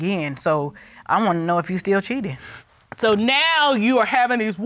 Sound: none

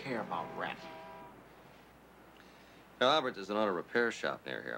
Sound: car starts

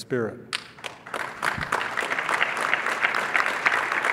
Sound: clapping

